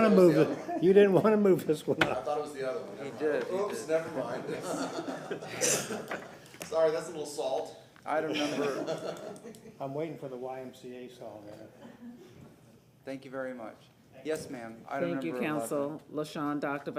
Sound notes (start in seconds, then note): 11.8 laughter